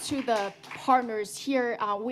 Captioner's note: applause